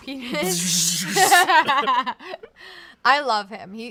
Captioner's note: both laugh